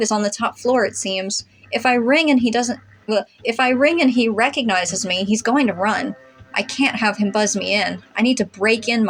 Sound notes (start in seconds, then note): 3.1 blubber